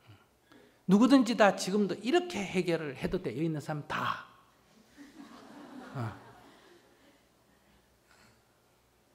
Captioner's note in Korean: 청중웃음